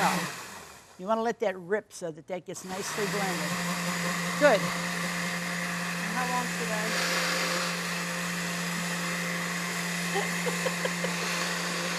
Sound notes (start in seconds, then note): 5.1 blender whirs; 9.7 both laugh